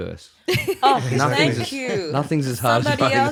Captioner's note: laughs